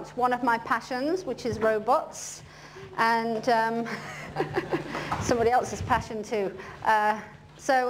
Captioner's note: laughter